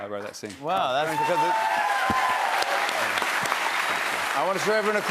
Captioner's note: cheers and applause